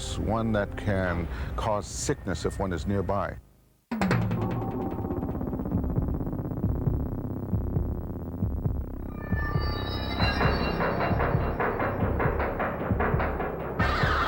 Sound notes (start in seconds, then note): 4.1 mysterious music; 7.0 heart beating